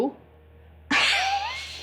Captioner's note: laughing